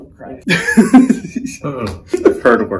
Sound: laughs

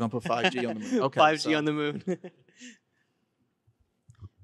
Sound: laughing

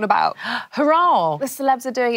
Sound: gasps

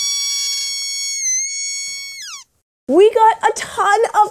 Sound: squeaks roars

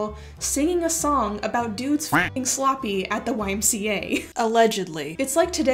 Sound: quack

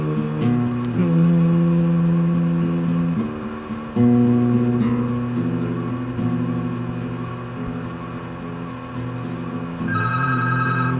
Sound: phone rings

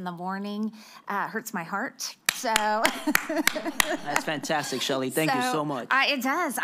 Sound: applause

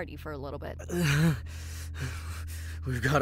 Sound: groans

